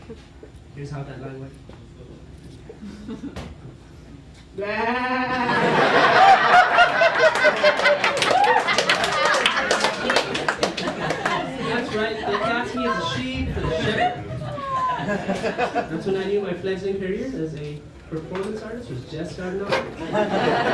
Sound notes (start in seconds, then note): 4.6 sheep bleating; 5.3 laughter and Clapter